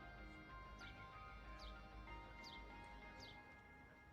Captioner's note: birds chirping